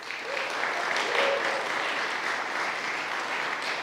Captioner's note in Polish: oklaski